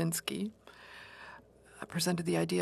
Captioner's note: speaking French